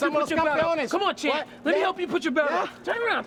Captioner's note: speaking in foreign language